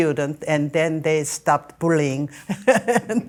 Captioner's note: laughing